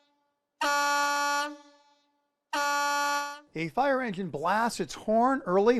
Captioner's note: horn blasting